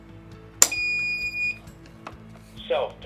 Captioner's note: battery clicks into place, AED beeps